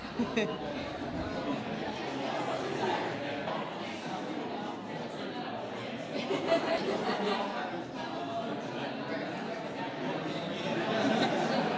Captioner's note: laugh